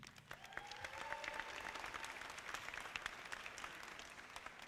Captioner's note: audience applauding